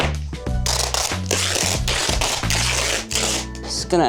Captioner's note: tape ripping